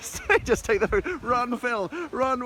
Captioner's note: laughing